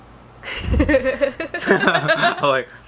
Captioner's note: laughter